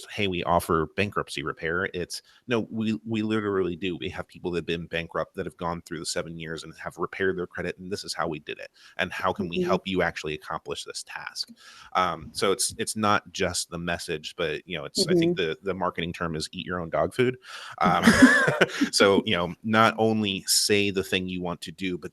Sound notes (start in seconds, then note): 17.8 laughter